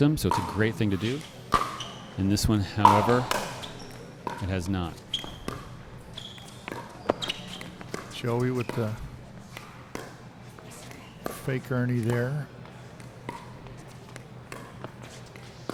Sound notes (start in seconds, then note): 5.3 ball being hit; 5.3 shoes squeaking